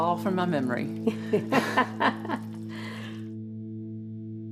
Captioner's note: laughs